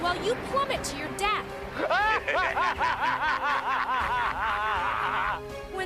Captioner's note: laughing